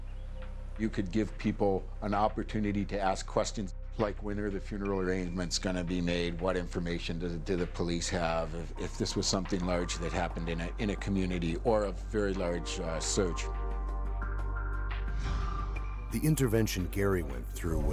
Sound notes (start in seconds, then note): 4.3 voiceover